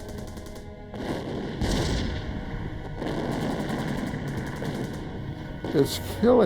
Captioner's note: gunfire